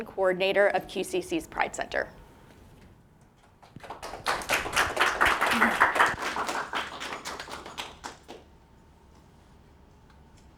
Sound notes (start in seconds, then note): 3.6 audience applauding